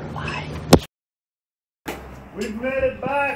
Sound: loud tap

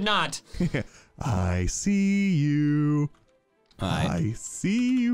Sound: laughs

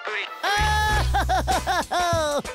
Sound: laughing

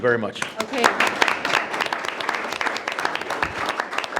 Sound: group applauds

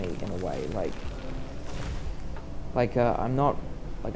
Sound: tree falls down

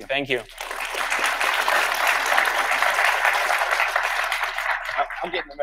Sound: audience applauds

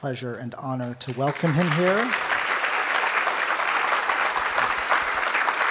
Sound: audience applauds

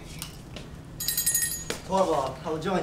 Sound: bell rings

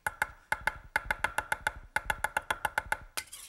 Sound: chopping

